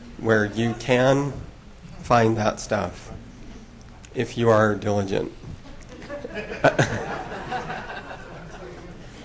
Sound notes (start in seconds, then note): 5.7 laughter